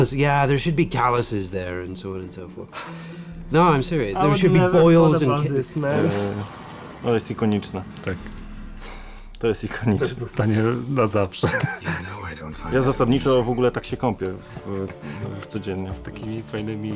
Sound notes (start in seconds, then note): 6.9 in Polish